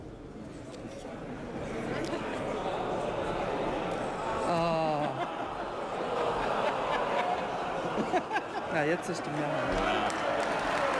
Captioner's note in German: Zwischenrufe, Beifall